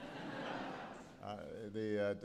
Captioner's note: laughter